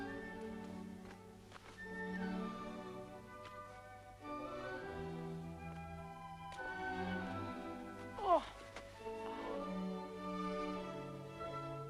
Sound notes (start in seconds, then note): 8.2 Hundra groans